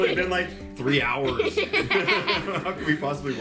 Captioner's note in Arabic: ضحك